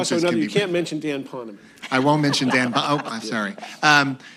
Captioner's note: laughter